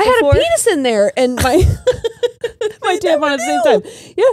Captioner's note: all laughing